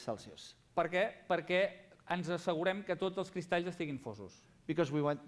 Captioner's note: non-english speech